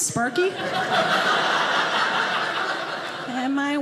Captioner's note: audience laughing